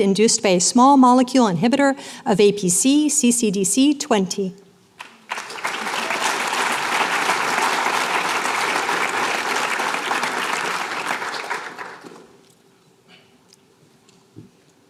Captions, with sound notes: Induced by a Small Molecule Inhibitor of APC/Ccdc20. [APPLAUSE]